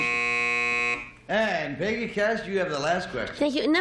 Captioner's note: buzzer